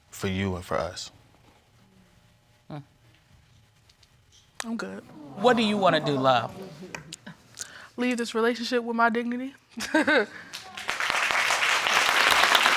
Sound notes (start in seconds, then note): 10.1 chuckles; 10.4 audience applauding